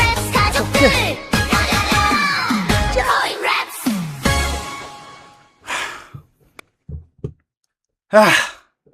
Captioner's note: sigh